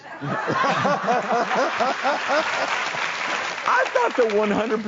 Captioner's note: everybody laughs; audience applauds